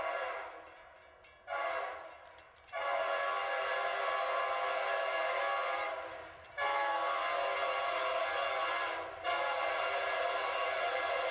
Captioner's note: train horn